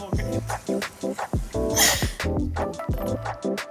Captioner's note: women laughing; upbeat music